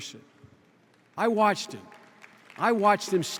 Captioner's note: scattered applause